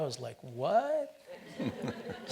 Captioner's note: audience laughs